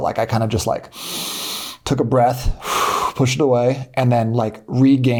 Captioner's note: inhales